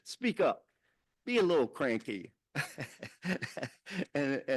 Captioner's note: chuckles